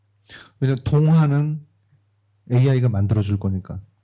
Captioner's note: speaking korean